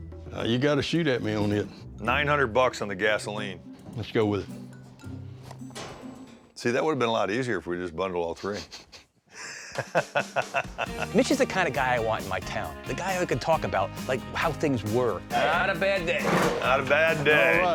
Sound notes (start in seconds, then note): 9.4 laughter